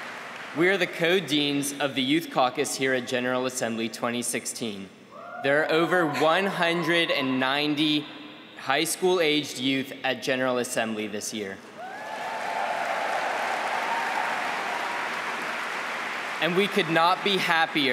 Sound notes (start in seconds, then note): 3.0 applause; 15.8 applause